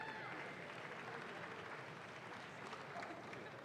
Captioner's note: audience claps